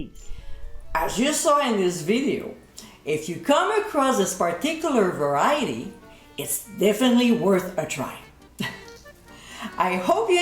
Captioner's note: giggling